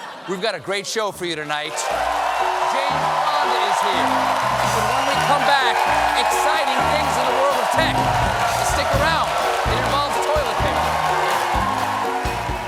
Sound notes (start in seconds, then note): 0.0 laughter; 3.0 cheers and applause; 10.1 band playing; 10.1 cheers and applause